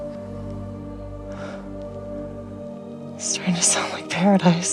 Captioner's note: sighing